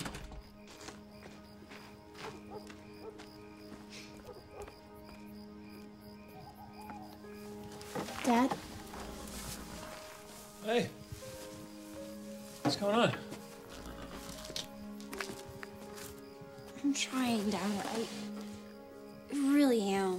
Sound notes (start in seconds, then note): 0.0 door bangs shut; 2.2 dog barks distantly; 2.2 gentle somber music; 14.5 soft somber music